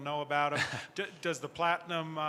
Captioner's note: chuckles